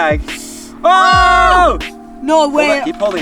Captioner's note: screaming